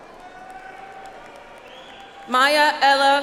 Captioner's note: audience applauds